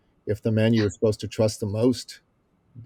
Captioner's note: laughs